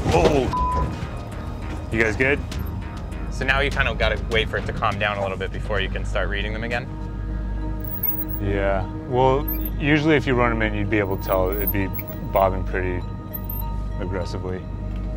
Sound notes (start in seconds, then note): 0.9 beep